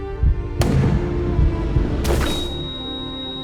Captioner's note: gun shot